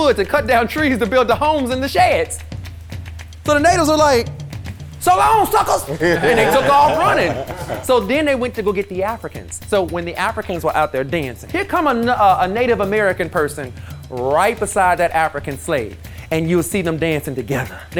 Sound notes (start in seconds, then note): 5.8 guys chuckling